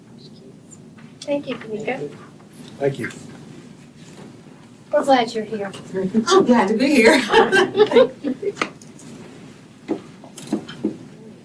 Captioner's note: laughter